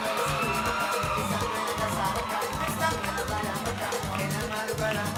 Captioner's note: audience cheering